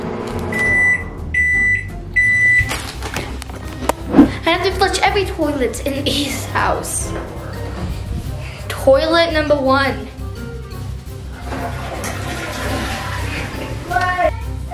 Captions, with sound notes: (microwave beeping) - I have to flush every toilet in this house. Toilet number one. (toilet flushing)